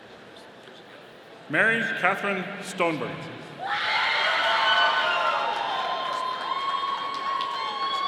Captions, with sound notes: Mary Katherine Stoneburner. (audience cheering)